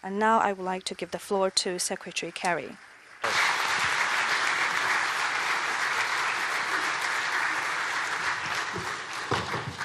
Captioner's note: applause